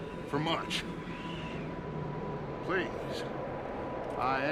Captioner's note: none